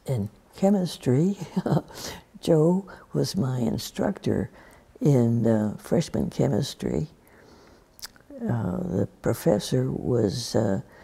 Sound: laughs

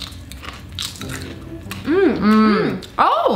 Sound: chewing noises

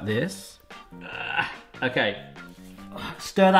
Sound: groaning

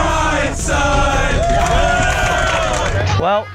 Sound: cheering

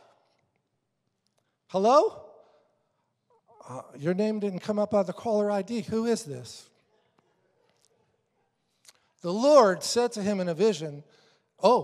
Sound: congregation laughing

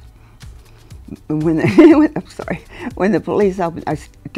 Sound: laughs

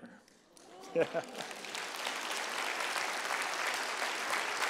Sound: applause

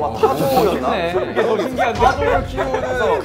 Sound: kekekekekekekeke

